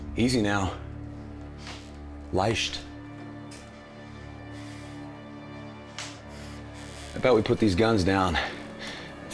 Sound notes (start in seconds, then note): 2.3 Brown speaking German